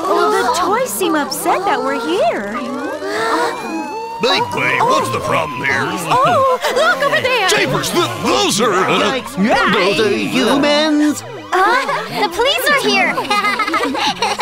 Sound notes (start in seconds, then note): 3.1 police siren wailing; 13.3 Duri laughs